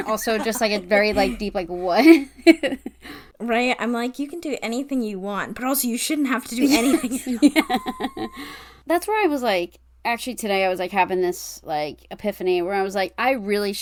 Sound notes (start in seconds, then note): 6.6 laughs